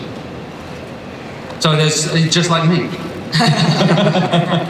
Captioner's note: laughs